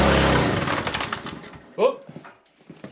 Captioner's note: splitter sputtering